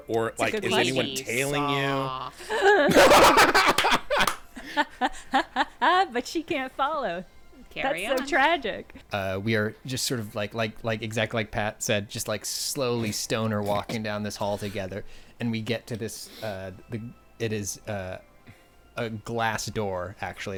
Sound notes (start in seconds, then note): 3.5 laughing